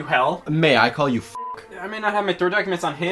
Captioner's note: beep